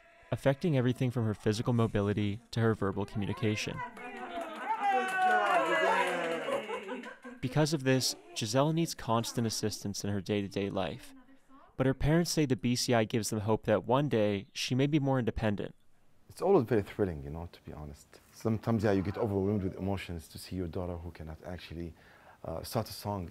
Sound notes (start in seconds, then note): 3.5 clapping and cheering